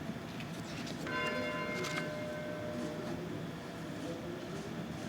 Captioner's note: bell ringing